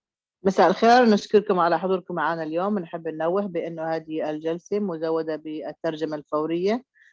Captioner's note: speaking Amharic